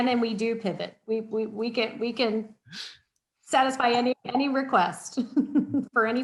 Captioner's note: laughs